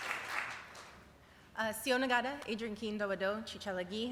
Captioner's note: speaking cherokee